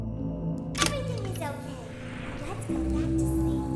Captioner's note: click